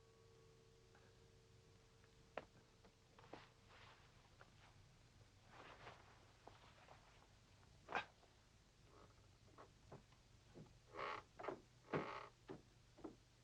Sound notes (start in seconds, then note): 10.1 stairs creaking